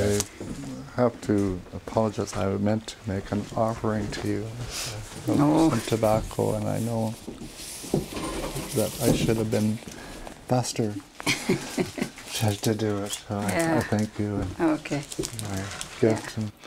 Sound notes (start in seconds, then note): 11.2 laughs